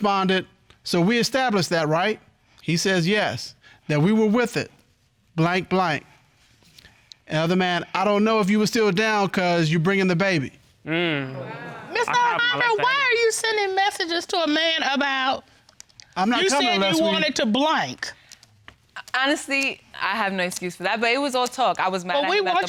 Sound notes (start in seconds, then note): 11.3 audience exclaims